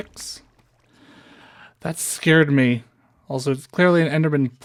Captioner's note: breath